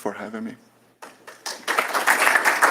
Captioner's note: applause